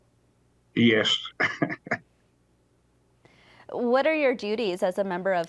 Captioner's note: chuckling